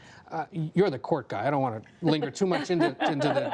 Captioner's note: laughter